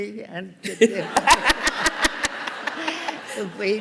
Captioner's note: laughter